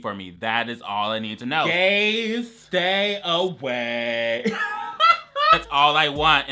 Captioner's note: laughs